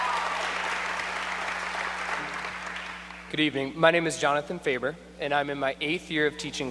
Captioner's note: applause